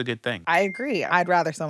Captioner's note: bell chiming